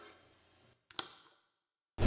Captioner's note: clicking noise